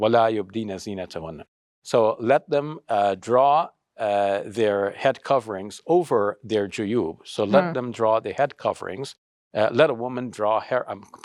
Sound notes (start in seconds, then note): 6.4 speaks Arabic